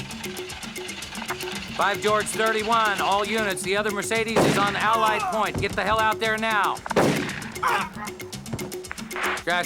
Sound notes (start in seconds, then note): 0.1 speedboat engine stalling; 6.9 gunshot; 7.5 groans; 7.6 gunshot and man groans